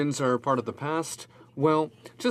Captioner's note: speaking in french